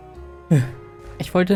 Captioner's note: sigh